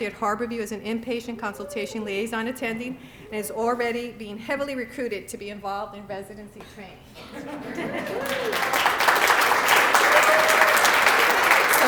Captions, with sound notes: at Harborview as an inpatient consultation liaison attending and is already being heavily recruited to be involved in residency training. [LAUGHTER] [APPLAUSE]